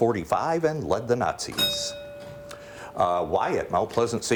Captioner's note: bell rings